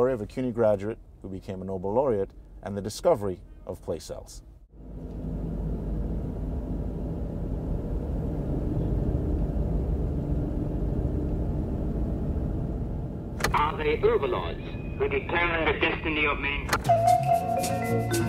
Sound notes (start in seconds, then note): 14.7 radio Broadcast